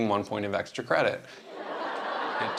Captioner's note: laughter